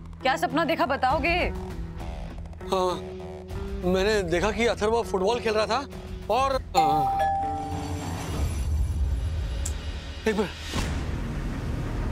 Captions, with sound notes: Will you tell me what the dream was about? Um... I saw that Atharva was playing football - and... - [doorbell chimes] Hang on a minute.